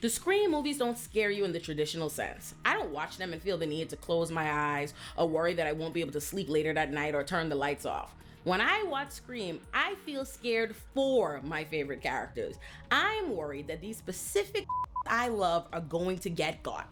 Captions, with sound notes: The screen movies don't scare you in the traditional sense. I don't watch them and feel the need to close my eyes, a worry that I won't be able to sleep later that night or turn the lights off. When I watch Scream, I feel scared for my favorite characters. I'm worried that these specific (beep) I love are going to get got.